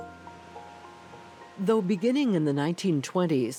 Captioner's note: wind blowing